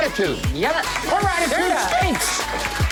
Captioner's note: applause